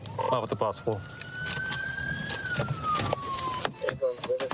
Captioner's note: sirens blaring